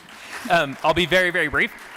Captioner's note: applause